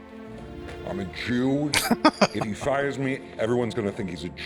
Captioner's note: laughing